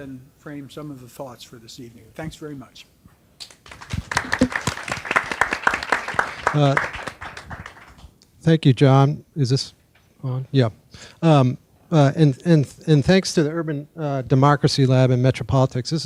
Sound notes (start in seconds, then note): 3.5 audience applauds